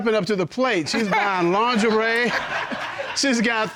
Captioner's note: audience laughing